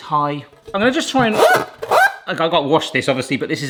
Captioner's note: pan zapping